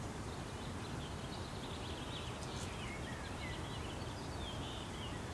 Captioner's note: birds chirping in distance